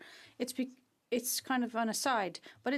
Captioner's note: speaking French